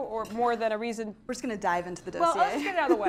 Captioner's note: laugh